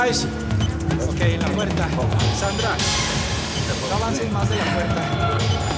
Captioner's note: man speaking in foreign language